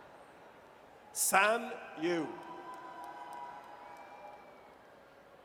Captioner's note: audience cheers